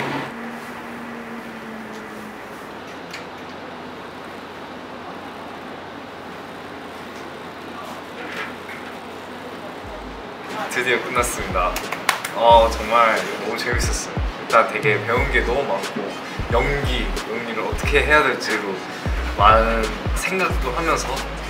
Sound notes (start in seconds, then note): 11.7 clapping